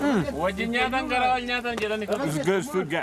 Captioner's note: indistinct chatter